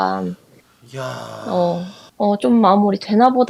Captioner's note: sigh